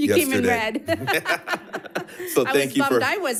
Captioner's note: laughing